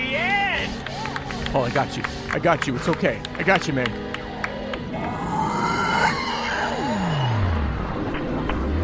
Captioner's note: the car's engine rattling into life